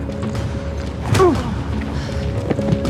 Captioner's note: Justin grunts